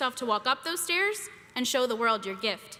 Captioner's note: none